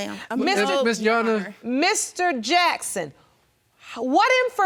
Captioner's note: stuttering